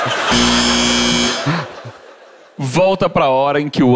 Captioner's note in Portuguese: campainha